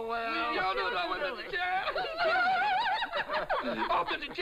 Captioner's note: chattering and laughing